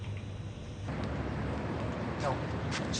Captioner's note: car engine whirs